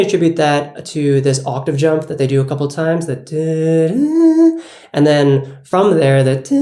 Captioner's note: humming; humming